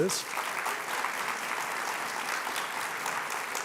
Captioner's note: applause